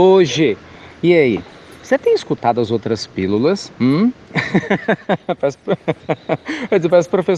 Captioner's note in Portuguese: Risos